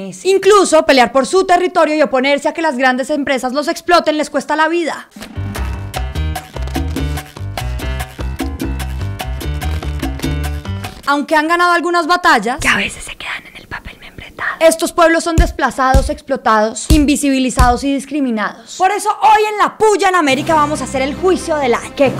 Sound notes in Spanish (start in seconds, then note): 12.5 susurro